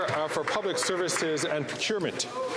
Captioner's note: applause